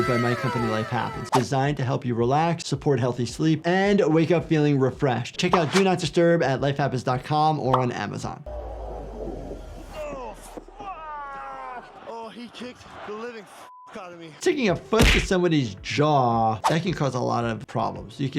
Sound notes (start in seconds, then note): 9.9 exclaims; 13.7 beeps